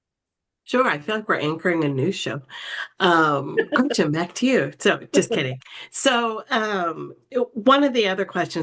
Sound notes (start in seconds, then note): 3.0 laughing